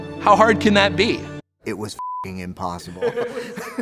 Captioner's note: beep; laughs